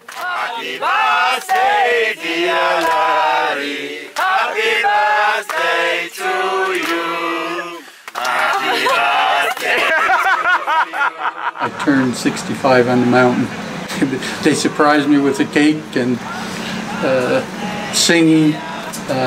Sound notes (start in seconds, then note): 10.0 laughs